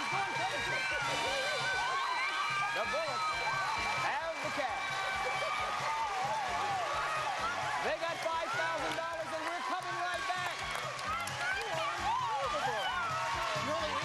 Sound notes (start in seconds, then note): 2.2 family screams; 7.1 crowd cheers; 11.1 family cheering